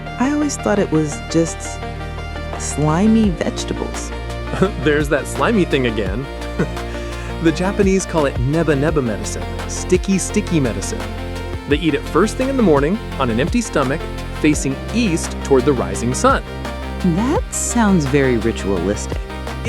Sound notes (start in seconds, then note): 6.5 laughs